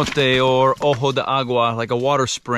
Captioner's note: speaking in foreign language